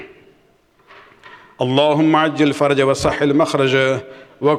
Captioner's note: arabic